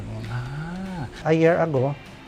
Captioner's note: exclaimed